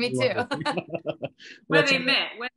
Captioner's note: laughing